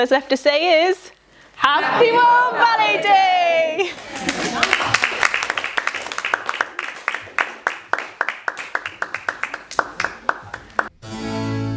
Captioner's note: laughter, applause